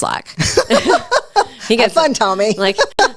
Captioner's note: laughs